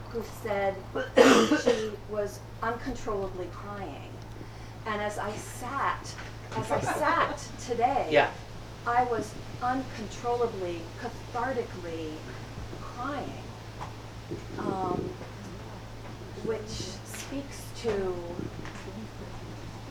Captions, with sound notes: who said she was uncontrollably crying. And as I sat, (audience laughs) as I sat today. - Yeah. I was uncontrollably cathartically crying, which speaks to the mystery,